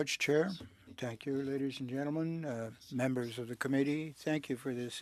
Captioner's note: speaking French